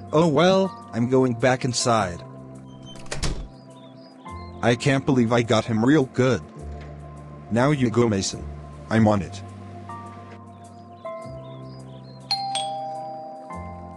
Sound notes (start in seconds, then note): 2.8 door Closes; 12.3 doorbell Rings